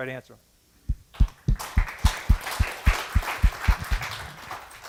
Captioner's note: applause